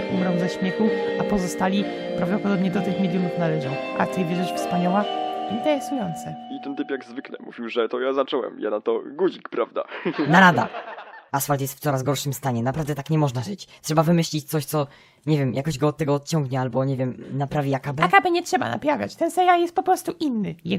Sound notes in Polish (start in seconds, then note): 7.0 głos Guziczkowskiego z TV; 9.8 śmiech